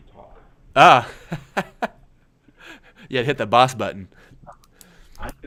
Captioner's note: laughs